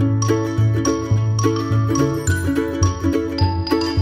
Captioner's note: sparkle noise